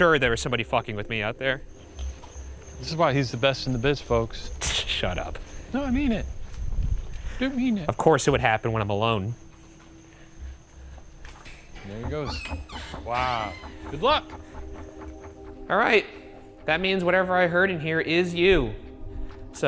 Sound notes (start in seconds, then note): 4.7 hisses; 11.1 door clicking; 11.4 door creaks